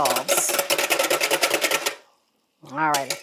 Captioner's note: bowl clanking